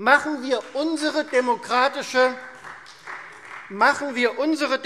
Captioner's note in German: Beifall Freie Demokraten